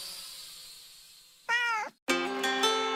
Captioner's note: cat meows